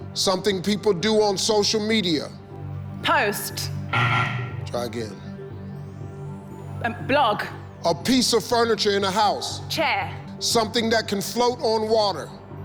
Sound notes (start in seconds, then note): 3.9 buzzer